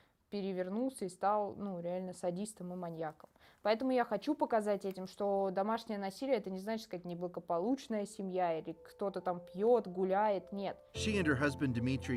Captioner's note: speaking russian